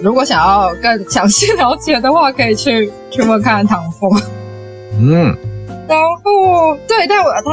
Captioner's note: laughs